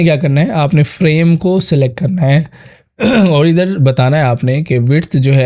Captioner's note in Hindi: गला साफ़ करने की आवाज़